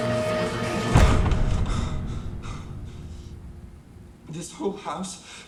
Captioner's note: hard breathing